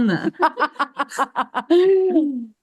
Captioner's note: laughter